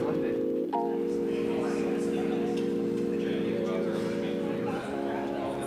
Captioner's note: people chatting indistinctly